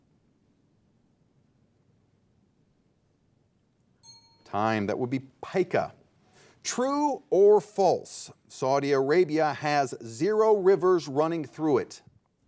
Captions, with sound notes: (timer beeping) Time. That would be pica. True or false, Saudi Arabia has zero rivers running through it?